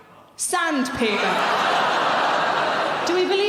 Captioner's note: audience laughing